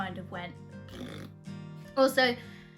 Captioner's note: fart noise